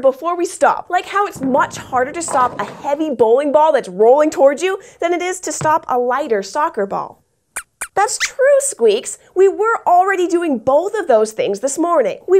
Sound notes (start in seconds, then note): 7.5 squeaks squeaks